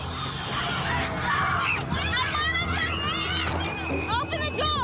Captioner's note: children yelling